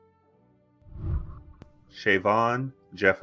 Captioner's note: whooshing